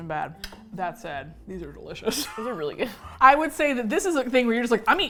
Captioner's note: both laugh